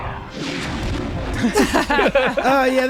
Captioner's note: all laugh